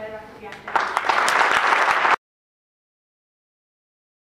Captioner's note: applause